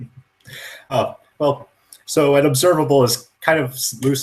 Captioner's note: laughs